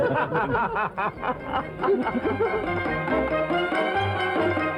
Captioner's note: laughing